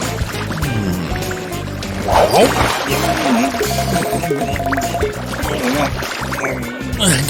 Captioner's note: muffled underwater sounds